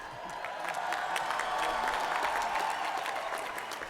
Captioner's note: cheering